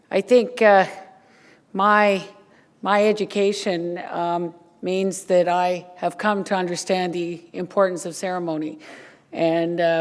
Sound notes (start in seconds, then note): none